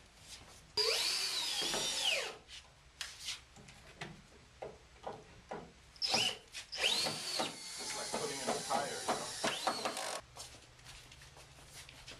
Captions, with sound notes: (screw gun whirring) It's like putting in a tire, you know?